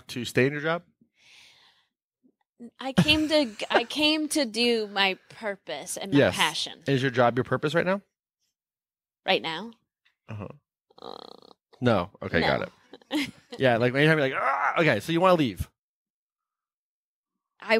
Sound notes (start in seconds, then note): 12.9 laughing